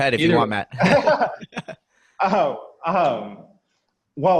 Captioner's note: laughing